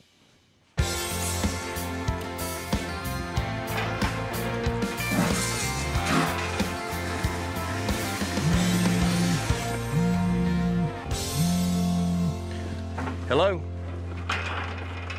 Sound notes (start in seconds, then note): 5.0 water spraying; 9.8 phone vibrating